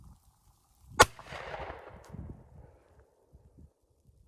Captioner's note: gunfire